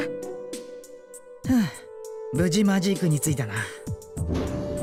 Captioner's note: sigh of relief